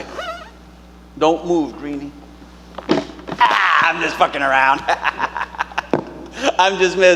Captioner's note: boots squeaking; cackling